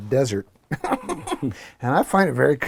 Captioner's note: laugh